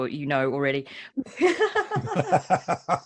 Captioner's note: laughs